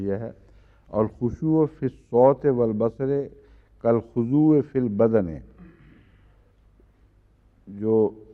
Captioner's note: Arabic